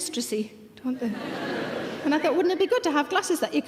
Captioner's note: audience laughing